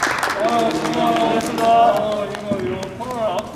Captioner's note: the shooting ended successfully with applaud